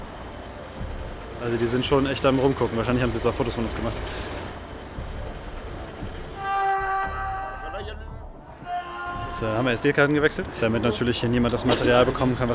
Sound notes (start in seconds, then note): 4.7 serious music; 6.4 distant shout